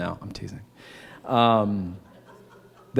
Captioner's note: laughter